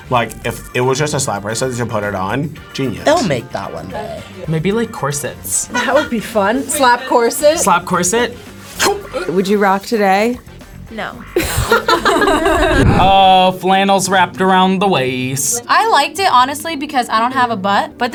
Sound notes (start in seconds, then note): 5.7 laughs; 8.7 imitates corset smacking; 11.3 both laugh